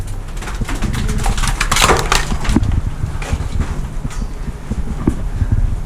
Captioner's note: rocks clatter; wind blows over microphone